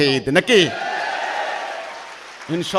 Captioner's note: clapping